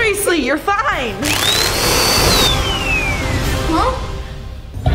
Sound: vacuum whirring

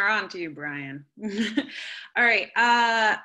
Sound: laughter

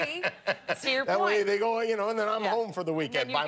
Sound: laughter

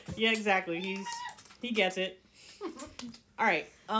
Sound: rat noises

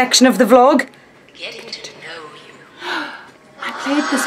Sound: woman On Recording

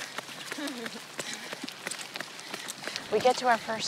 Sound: sound of footsteps; heavy breathing

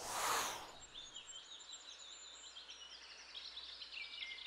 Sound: birds chirping

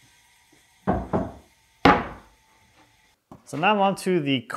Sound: plywood thudding

